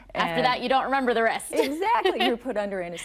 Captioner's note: she laughs